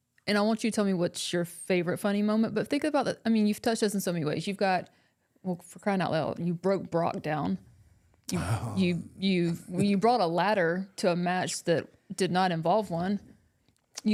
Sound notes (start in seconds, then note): none